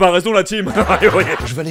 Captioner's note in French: Rire